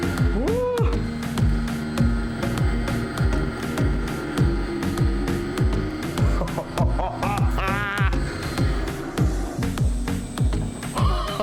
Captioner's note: gasp and Laughter